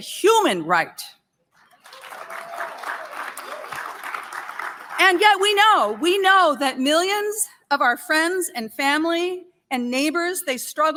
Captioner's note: applause